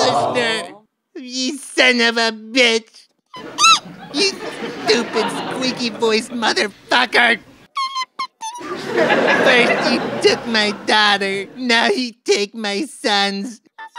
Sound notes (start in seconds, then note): 3.3 squeak